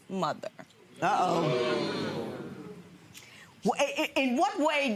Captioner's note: audience groaning